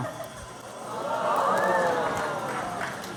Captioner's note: cheer; applause